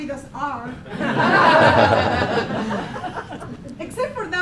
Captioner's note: laughing